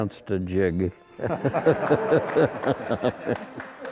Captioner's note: all laughing